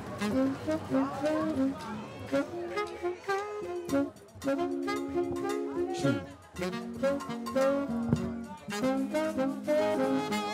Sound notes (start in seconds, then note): 3.2 speaking in foreign language